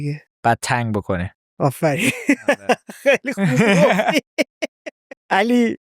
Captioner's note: laughs